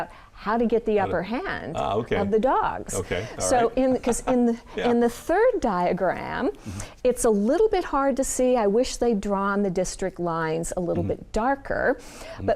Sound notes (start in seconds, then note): 2.9 laughing